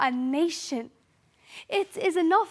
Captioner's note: sharp breath